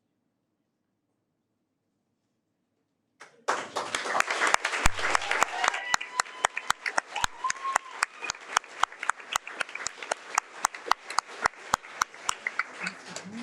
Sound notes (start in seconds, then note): 4.5 audience applauding